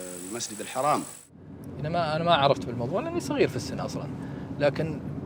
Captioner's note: speaking in Arabic